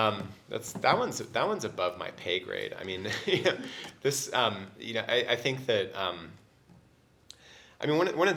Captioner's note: laugh